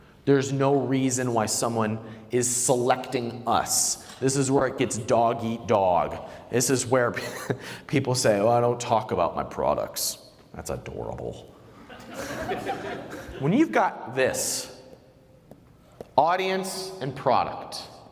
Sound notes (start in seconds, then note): 7.1 laughs; 11.8 laughter